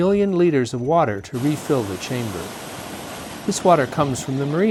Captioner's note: water crashing